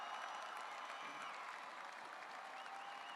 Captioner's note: cheers and applause